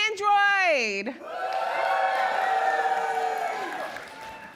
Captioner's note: cheering